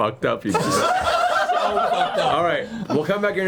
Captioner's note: all laugh